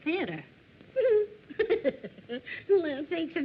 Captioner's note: laughter